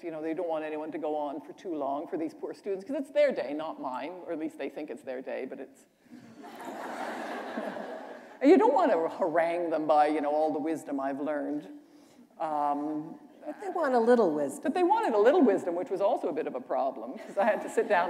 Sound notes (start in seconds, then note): 6.2 laughter